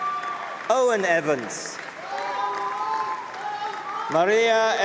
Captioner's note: applause